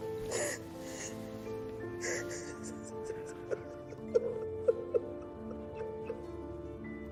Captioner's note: crying